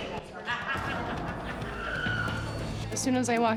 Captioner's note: inmate laughing; inmate shouting